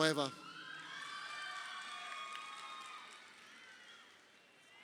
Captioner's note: crowd cheering